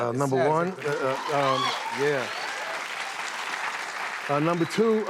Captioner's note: cheers and applause